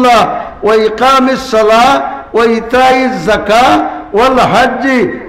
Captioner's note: Arabic